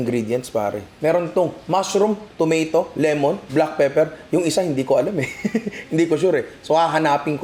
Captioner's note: chuckles